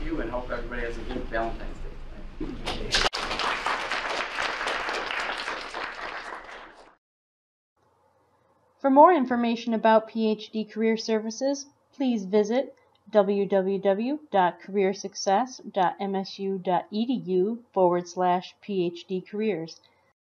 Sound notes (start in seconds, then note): 2.9 students applaud; 8.7 voiceover